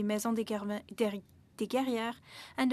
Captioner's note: speaking French